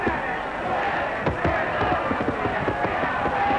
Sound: cheering

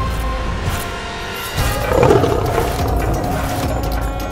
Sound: roars

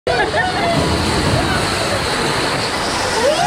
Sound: water rushing

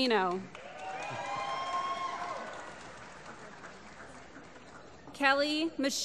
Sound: applause

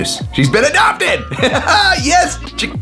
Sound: laughs

